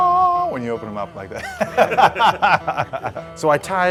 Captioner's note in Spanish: Risas